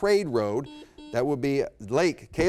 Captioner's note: buzzer beep